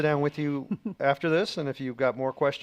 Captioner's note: laughing